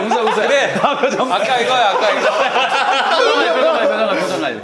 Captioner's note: yawn